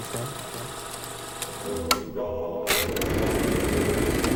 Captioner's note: projector clicking